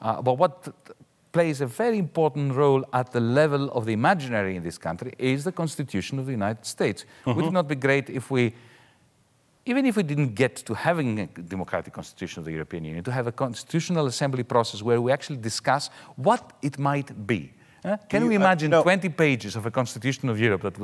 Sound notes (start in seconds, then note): none